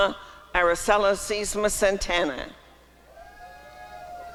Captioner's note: applause and cheering